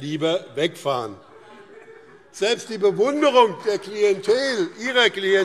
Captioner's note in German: Heiterkeit und Beifall BÜNDNIS 90/DIE GRÜNEN und CDU